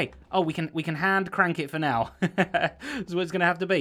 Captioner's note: chuckles